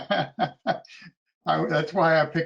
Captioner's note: laughs